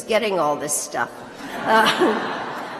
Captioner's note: laughter